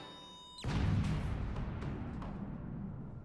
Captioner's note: boom